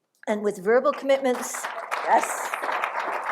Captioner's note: applause